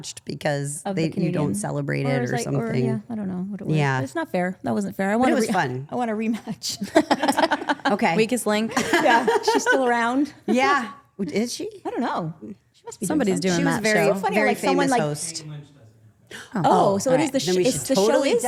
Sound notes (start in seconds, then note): 6.6 group laughing